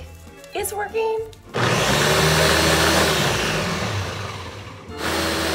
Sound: blender groaning

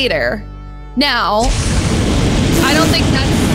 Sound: flames roaring

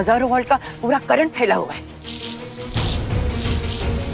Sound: electric current sound

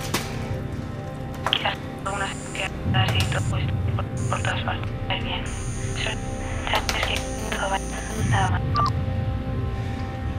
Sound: audio glitch continues

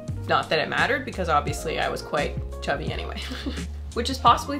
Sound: chuckles

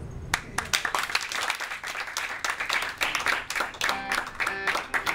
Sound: audience applauds

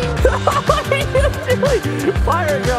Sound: laughs

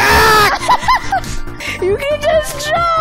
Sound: laughs

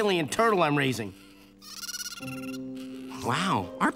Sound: chittering

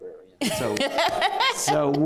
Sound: laughs

